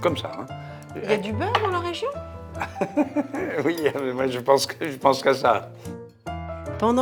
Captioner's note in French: rires